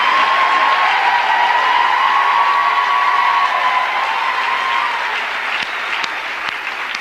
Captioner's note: cheering